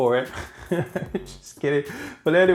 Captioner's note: laughs